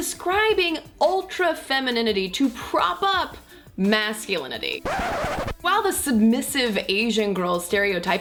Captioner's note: disc scratch